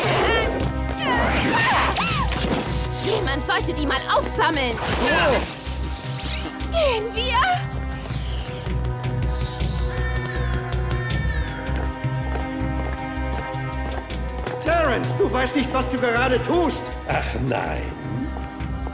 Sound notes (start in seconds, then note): 0.9 grunting; 12.0 alarm blaring